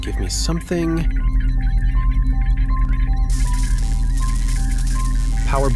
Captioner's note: rapid ticking with faint electric sparking